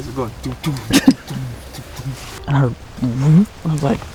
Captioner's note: whispering